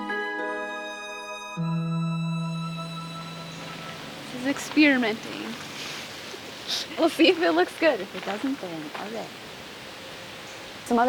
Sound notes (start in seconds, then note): 6.6 both chuckle